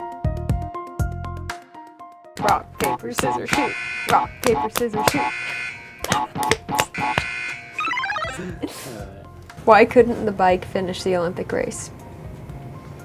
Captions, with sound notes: - Rock, paper, scissors, shoot. (buzzer) Rock, paper, scissors, shoot. (buzzer) - Why couldn't the bike finish the Olympic race?